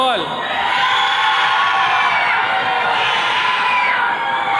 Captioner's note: attendees cheering